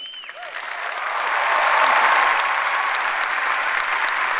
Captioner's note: audience applauds